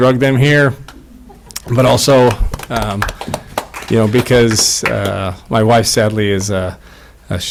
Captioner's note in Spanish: aplausos